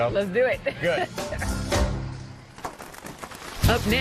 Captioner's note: laughs